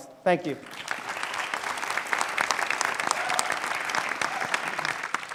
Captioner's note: audience clapping